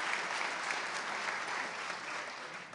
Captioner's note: applause